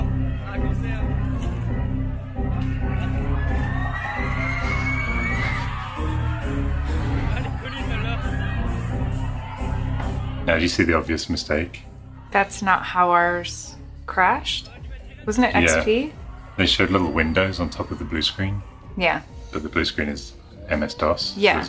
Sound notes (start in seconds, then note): 0.1 upbeat electronic music; 2.6 audience cheering